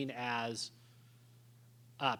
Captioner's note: none